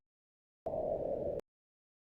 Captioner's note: wind blowing